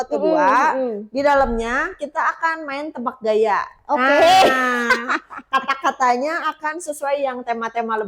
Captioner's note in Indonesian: tertawa